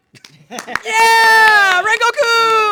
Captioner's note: all clapping